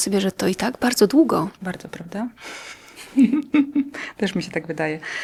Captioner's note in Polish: śmiech